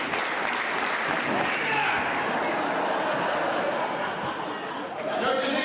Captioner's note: audience laughs